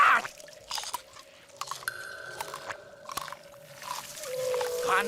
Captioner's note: chewing